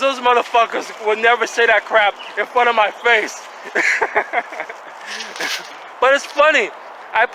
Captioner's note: laughing